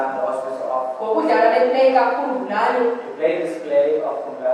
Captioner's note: woman speaking foriegn language